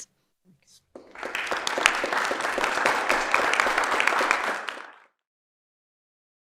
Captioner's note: applause